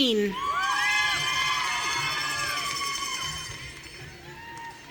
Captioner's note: audience cheering